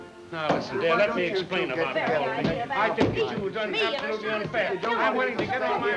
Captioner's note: all chattering